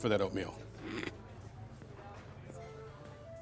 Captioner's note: all snickering; playful music